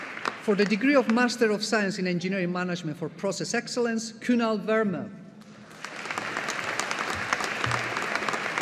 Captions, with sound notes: For the degree of Master of Science in Engineering Management for Process Excellence Kunal Verma. (AUDIENCE APPLAUDING)